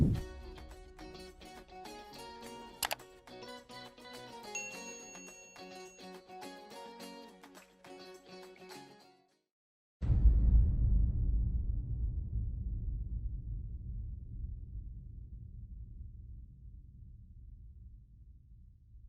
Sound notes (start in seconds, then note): 0.1 upbeat music; 2.5 bell ringing; 2.8 mouse clicking; 10.4 dramatic music